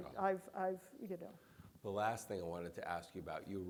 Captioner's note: none